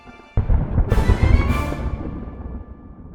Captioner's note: thunder roaring